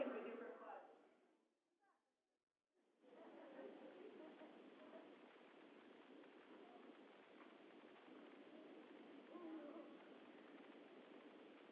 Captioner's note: laughter